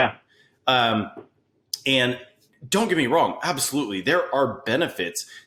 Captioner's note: none